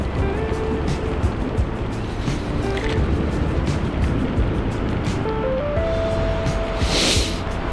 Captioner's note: wind Blowing